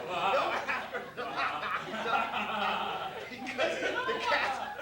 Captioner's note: laughter